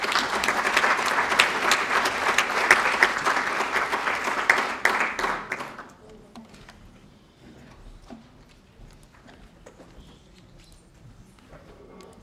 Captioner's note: applause